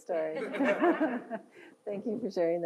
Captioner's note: audience laughs